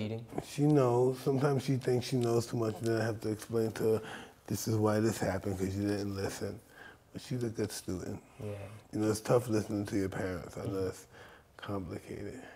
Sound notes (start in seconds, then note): none